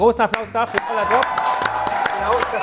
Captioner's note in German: Jubel, Pfiffe